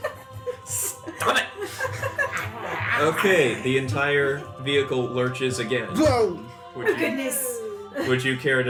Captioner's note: growls